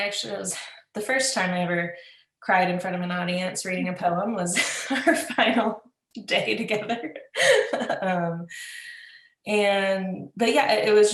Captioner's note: laughs